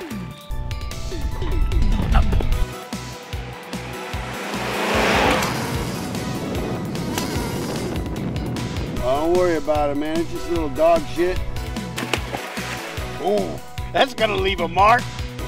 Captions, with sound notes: (sound of flies buzzing and hitting face) Oh don't worry about it man it's just a little dog shit. Ooh, that's gonna leave a mark!